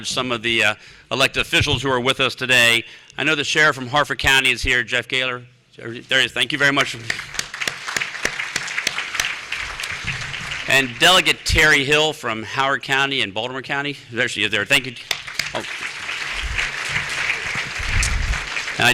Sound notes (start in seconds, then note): 6.7 applause; 15.0 applause